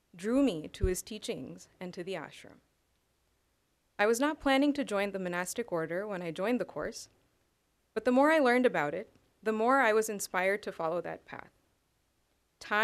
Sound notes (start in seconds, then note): none